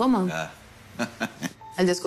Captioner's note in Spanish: Braulio ríe